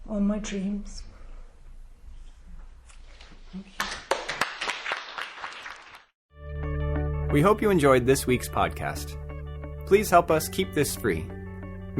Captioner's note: applause